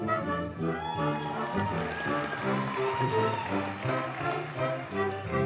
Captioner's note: audience cheers and applauds